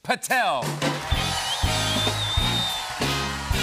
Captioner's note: cheers and applause